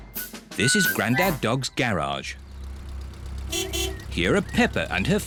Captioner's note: horn beeps